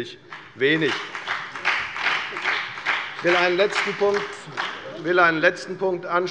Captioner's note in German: Beifall bei der FDP und bei Abgeordneten der SPD